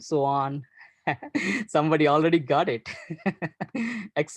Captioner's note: laughs